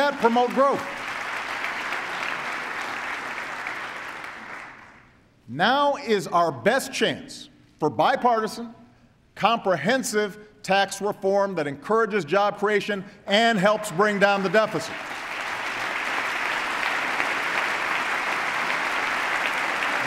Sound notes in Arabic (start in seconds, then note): 3.1 تصفيق; 16.4 تصفيق